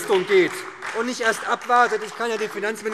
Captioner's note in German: Beifall SPD